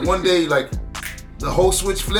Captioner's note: fingers snap